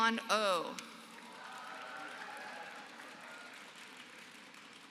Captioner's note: applause